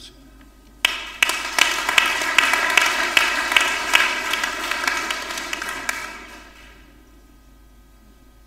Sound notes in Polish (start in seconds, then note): 0.8 oklaski